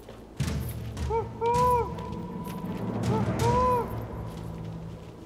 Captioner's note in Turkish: Baykuş ötüyor